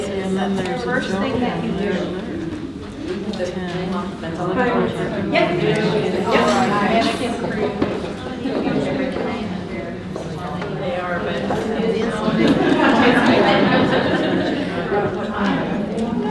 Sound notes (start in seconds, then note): 4.6 participants talking at once; 11.9 participants laughing